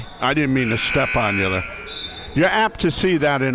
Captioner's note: buzzer sounding